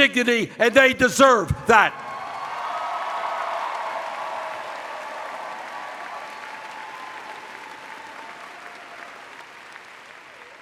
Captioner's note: cheers